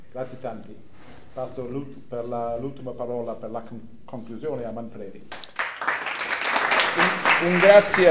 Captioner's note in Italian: applausi